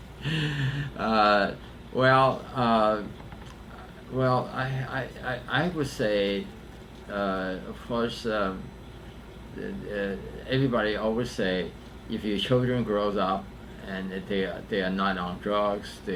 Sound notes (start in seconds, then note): 1.7 laughs